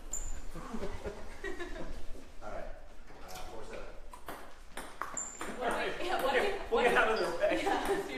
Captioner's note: ping pong bouncing